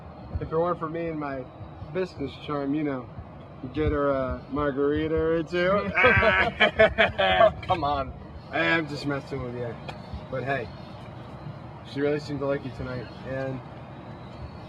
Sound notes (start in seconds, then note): 5.8 Rob continues to laugh